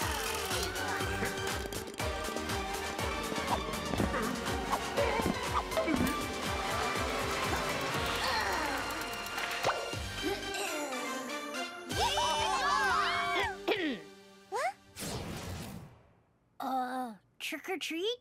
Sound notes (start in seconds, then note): 8.0 groaning; 11.9 all cheering; 13.6 clears throat